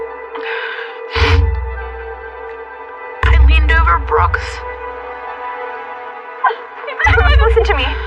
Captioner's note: sniffles